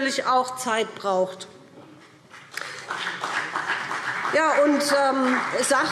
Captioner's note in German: Beifall BÜNDNIS 90/DIE GRÜNEN und vereinzelt CDU